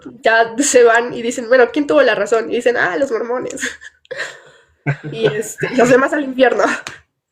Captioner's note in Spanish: risas